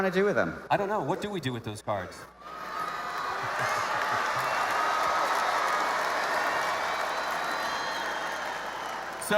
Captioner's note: cheering/Applause